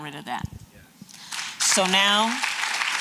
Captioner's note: applause